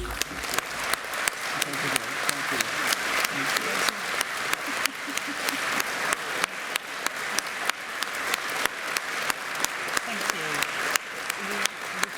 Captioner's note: applause